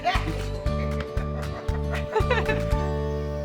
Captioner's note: everyone laughs